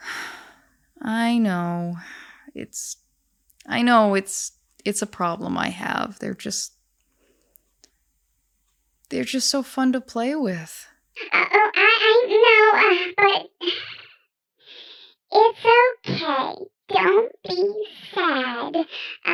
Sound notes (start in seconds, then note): 0.0 le sigh; 13.5 le sigh